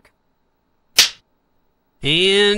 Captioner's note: clapper